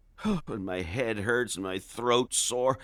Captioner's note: sighing